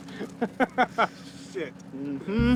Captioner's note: laughing